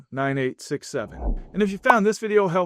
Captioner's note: transition whooshes